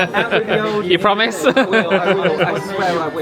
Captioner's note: laughing; laughs